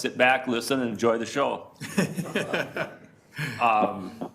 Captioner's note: laughing